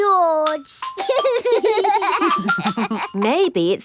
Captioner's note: giggling